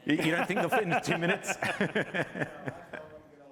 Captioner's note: laughter